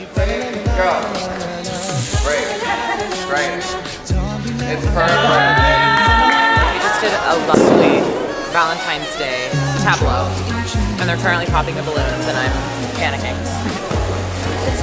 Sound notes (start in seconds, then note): 4.9 cheering; 7.5 balloon pops; 14.1 laughs